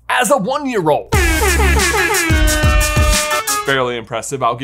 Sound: air horn blares

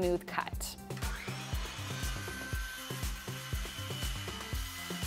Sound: cutting wood

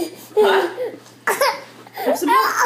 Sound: baby coughing and crying

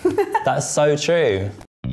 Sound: laughs

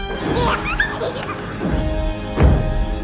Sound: Pubert giggles

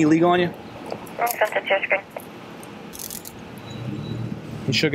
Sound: radio chatter

